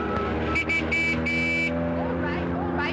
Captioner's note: honking continues